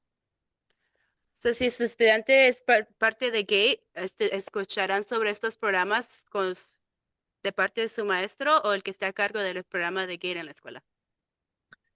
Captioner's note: speaking in Spanish